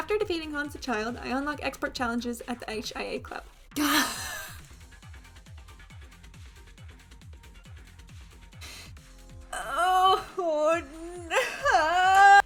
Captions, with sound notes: After defeating Hans the child, I unlock expert challenges at the HIA club. Gah- *breath in* (Strained) Oh-ho- Nooooo-!